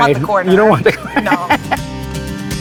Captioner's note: chuckles